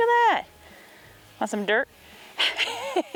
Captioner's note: laughing